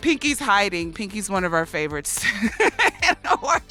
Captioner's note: laughs